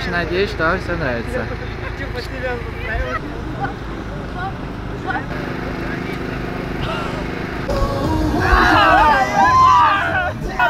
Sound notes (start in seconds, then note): 8.3 shouts of support